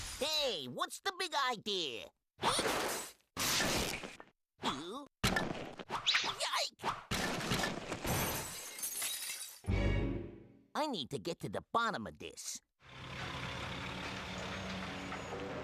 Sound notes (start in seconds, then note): 12.8 engines grinding